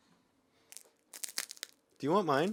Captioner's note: Ian's cone crunches